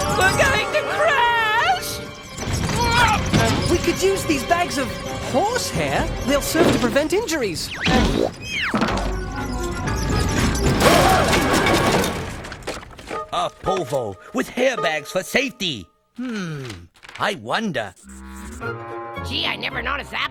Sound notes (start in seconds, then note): 9.3 thudding; 11.5 crashing